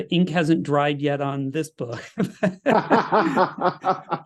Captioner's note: laugh